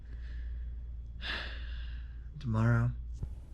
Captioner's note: sighs